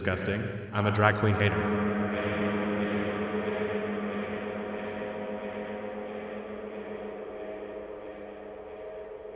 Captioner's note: echoing